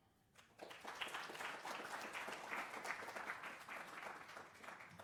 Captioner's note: applause